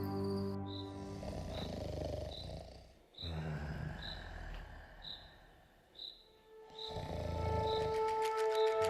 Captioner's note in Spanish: Ronquidos